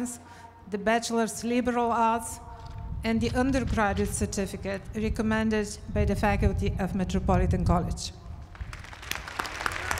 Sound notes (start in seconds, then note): 8.4 applause